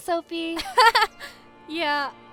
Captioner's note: sophie chuckles